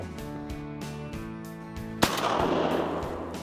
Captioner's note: gun shot